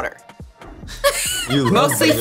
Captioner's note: laughter